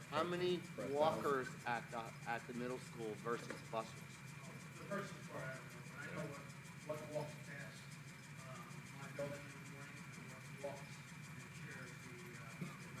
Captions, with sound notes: - How many walkers act at the middle school versus bus? (faintly speaking)